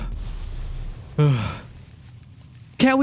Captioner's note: huff